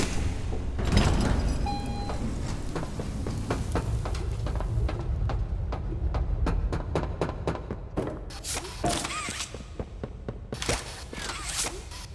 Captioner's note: doorbell